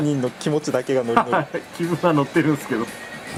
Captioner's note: laughs